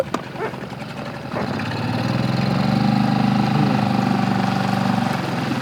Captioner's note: boat motor humming